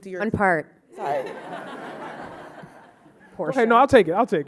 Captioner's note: audience laughing